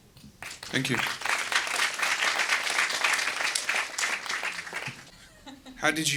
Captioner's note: audience applause